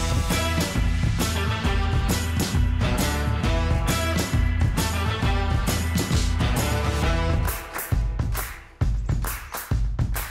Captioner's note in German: Beifall